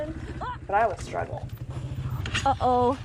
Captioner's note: groaning and falling